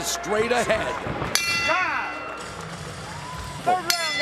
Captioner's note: bell rings